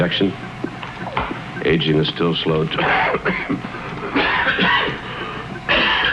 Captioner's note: coughs